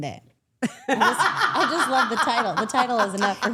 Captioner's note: laughing